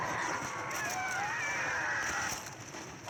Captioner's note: zombie runner shout